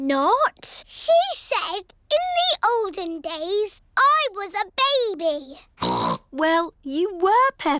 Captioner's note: snorts